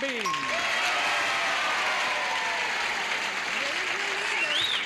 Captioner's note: audience applauding